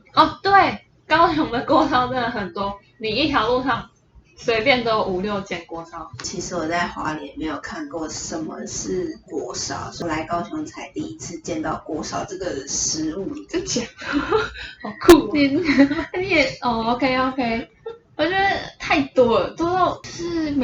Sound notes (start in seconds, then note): 13.9 laugh